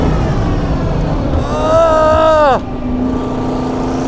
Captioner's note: groans